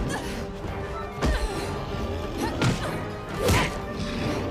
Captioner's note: kicks thudding